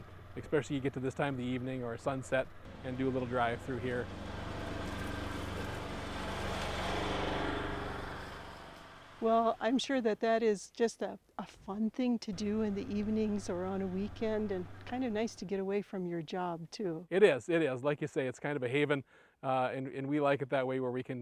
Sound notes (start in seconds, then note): 4.7 UTV rumbling